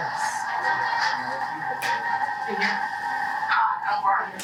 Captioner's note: indistinct chatter